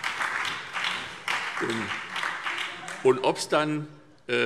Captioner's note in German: Beifall SPD und BÜNDNIS 90/DIE GRÜNEN